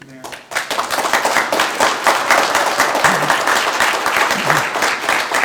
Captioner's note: group applauding